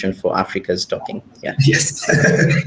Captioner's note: laughs